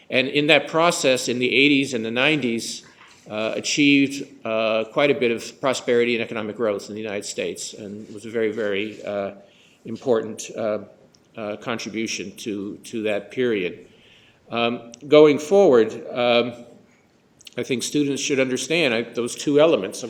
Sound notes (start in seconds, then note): none